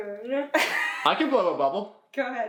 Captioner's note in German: Mama kichert